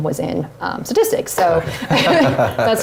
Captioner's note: laugh